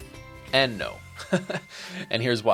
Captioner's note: giggles